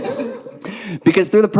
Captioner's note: audience laughing